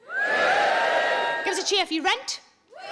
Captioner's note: scattered cheering